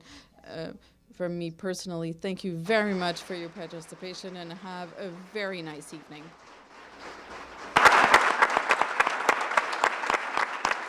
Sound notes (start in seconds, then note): 7.2 applause